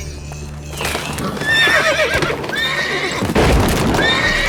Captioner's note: grunt; horses neigh; wood splinters; loud thud